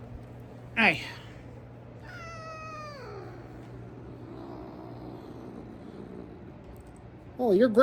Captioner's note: meows then growls